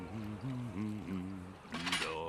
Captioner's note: humming